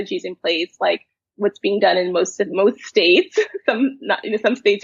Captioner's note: chuckles